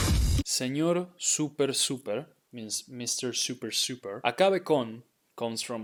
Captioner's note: thunder crashing; speaking in Spanish